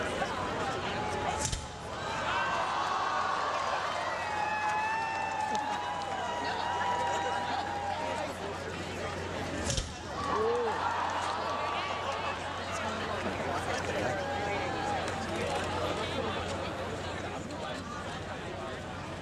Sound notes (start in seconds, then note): 3.3 cheering